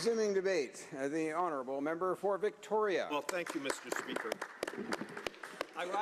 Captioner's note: applause